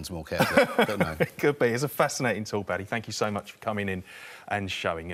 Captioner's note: laughing